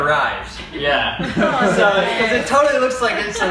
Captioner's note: background laughter and chatter